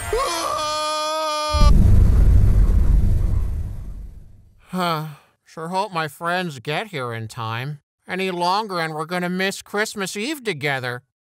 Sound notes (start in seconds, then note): 0.0 GUY screams; 4.6 sigh